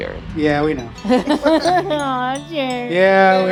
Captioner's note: both laughing